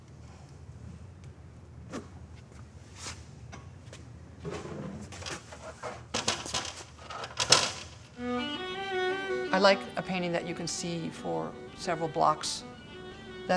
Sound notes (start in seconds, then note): 1.3 scrape; 4.5 clank-clank; 8.1 instrumental music